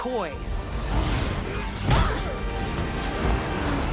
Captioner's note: groans, grunts